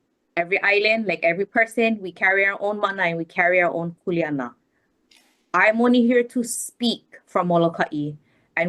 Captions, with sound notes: Every island, like every person, we carry our own mana. We carry our own (speaks Hawaiian). I'm only here to speak from Moloka'i